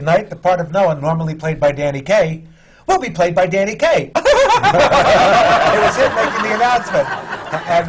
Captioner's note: imitates a wild chuckle; laughter